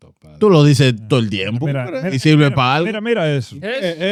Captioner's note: speaking In Foreign Language